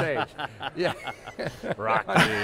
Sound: hosts chuckling; laughing

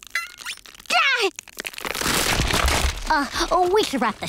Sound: cracking; shrieking

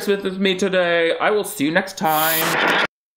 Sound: static hisses

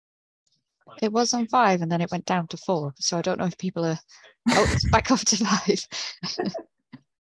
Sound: laughing

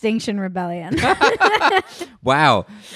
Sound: laughs loudly

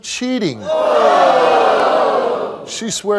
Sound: audience shouting

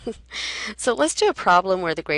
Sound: laughs

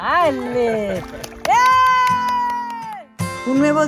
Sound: cheers

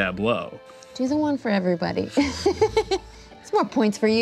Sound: laughs

